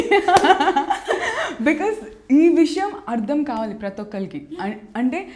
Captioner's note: laughs